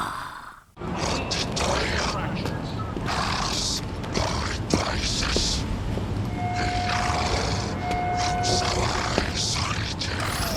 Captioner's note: alien sounds